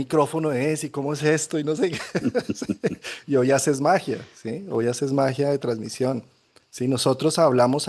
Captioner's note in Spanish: risas